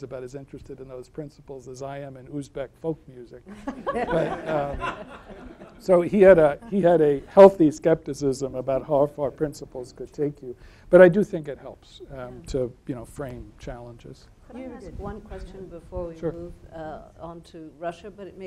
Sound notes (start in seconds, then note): 3.5 laughing